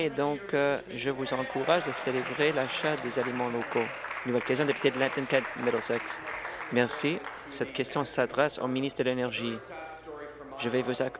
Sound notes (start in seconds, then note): 5.2 applause